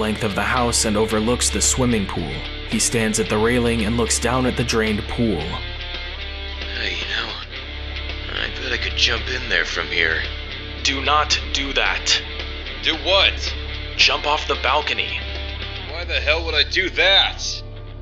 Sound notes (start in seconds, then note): 6.0 quietly